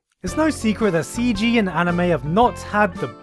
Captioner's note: none